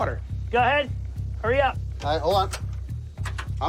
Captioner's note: clicking